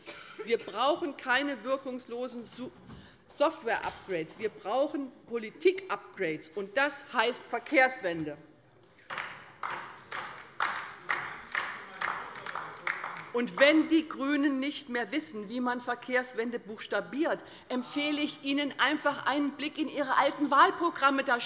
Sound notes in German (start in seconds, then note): 9.0 Beifall bei der SPD